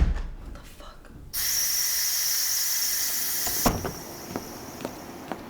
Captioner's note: steam hissing